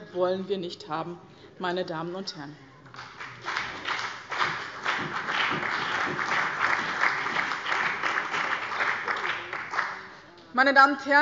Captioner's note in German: Beifall bei dem BÜNDNIS 90/DIE GRÜNEN und der CDU